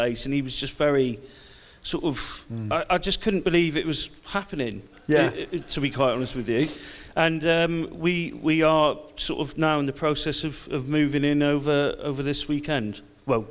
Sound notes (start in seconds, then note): 5.0 audience laughs